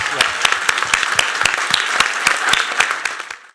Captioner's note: applause